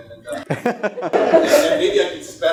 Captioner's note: laughter